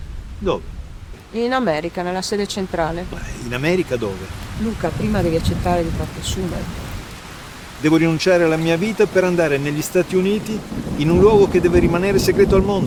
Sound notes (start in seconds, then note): 6.6 strong wind